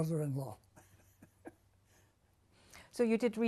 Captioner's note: laughs